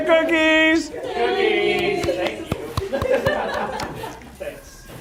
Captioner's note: laugh